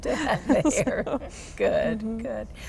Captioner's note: laughter